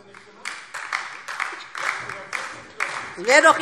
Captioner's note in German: Beifall DIE LINKE - Zuruf AfD: Warum haben Sie das nicht gemacht?